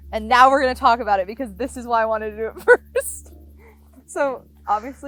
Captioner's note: laughs